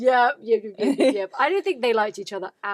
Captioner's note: laughs